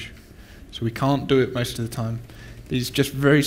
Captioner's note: static